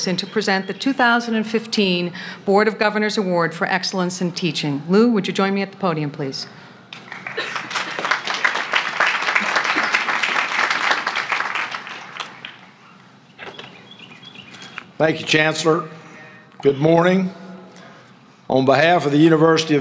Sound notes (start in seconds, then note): 7.0 applause